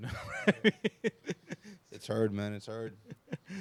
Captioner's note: laughing